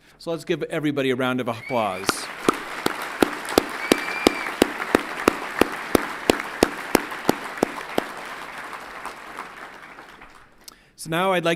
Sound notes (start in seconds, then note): 1.6 everyone clapping and cheering